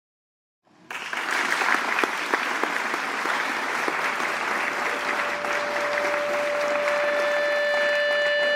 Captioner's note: applause